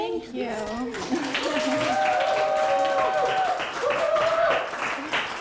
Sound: applause

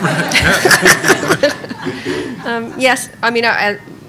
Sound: laughing

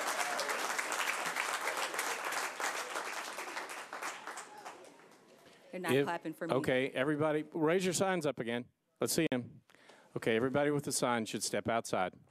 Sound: applause

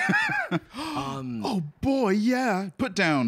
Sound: gasps

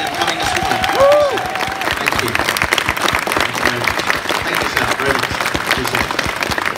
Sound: crowd cheers and applauds

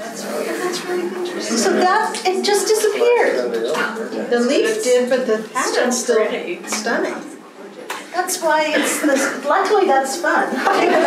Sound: laughter

